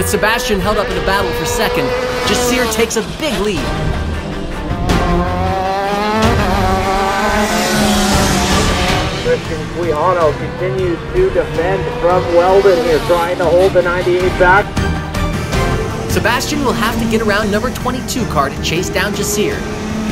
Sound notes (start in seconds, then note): 7.2 race car engines